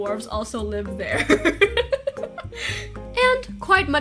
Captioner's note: giggles